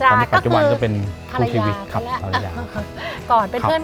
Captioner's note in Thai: หัวเราะ